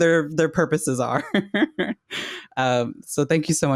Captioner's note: laughs